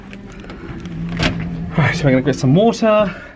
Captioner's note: latch clunks